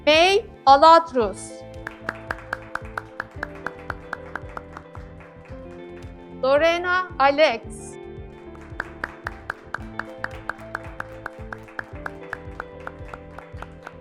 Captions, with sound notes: May Aladidrous, (graduates clapping) Loreno Alex, (graduates clapping)